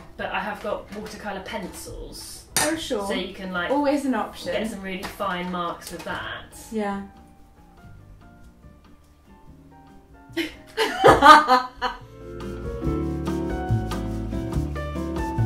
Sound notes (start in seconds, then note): 8.5 light jazz music; 10.4 laughs; 12.4 light jazz music